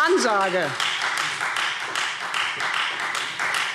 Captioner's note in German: Beifall Freie Demokraten